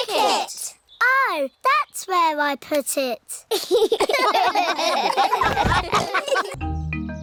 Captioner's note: all laugh